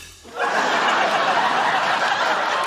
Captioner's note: laughter